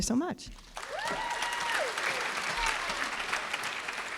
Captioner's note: applause